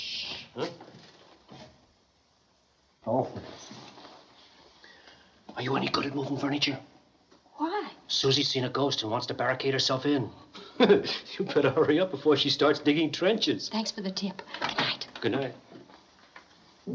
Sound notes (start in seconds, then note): 5.6 whispering